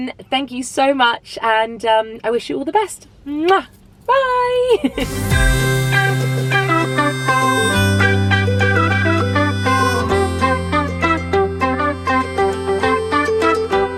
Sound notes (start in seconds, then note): 4.4 laughs; 5.0 bright upbeat music